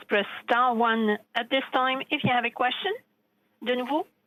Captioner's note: speaking French